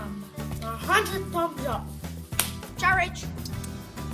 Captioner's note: clap